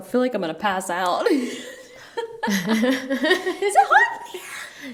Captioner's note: laughing